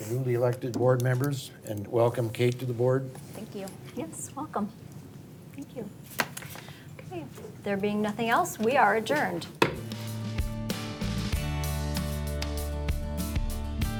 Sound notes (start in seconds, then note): 9.6 gavel banging; 9.8 upbeat music